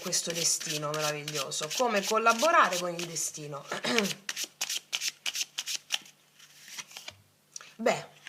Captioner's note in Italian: schiarire la voce